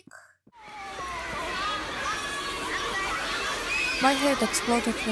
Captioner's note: loud noise of shcool break